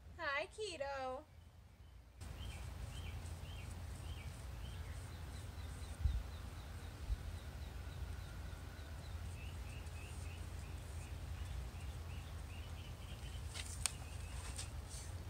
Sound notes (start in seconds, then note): 1.3 wind, birds, and paint brush strokes; 13.3 shuffling